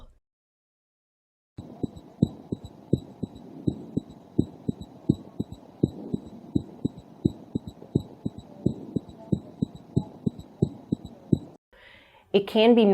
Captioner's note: heart beating